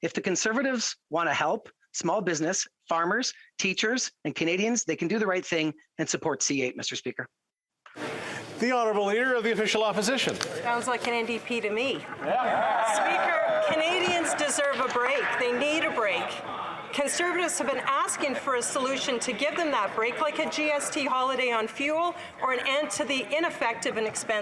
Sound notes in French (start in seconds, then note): 16.4 voix de l'interprète